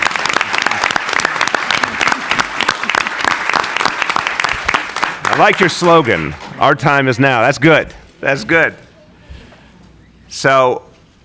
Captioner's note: applause